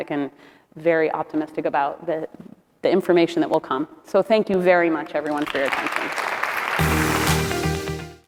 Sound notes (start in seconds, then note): 5.4 crowd applauding; 6.7 upbeat music